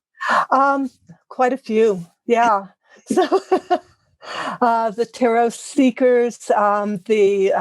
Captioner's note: laugh